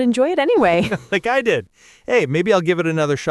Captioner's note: laughs